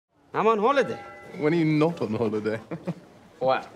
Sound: chuckles

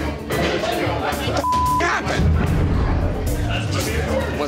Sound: beep

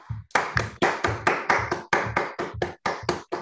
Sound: applause

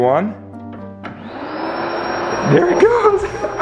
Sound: air mattress whirs

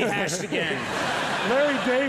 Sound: Jeff and audience laugh

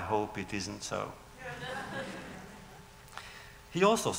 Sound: laughter

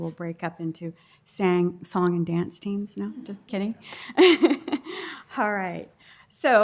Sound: laughter

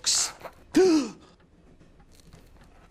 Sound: he gasps

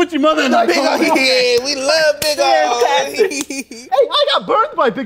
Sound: laughs

